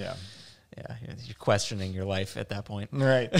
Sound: laughs

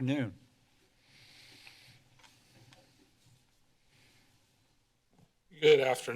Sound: silence

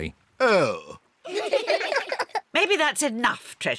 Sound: all giggle

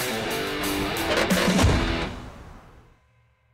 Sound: Impala door creaking closed

